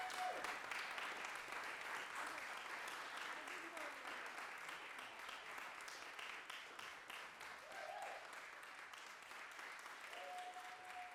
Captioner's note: applause